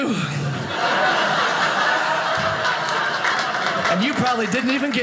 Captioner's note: audience laughing